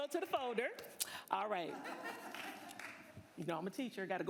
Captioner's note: applause